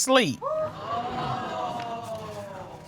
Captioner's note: audience gasps